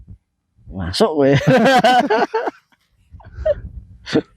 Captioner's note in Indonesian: tertawa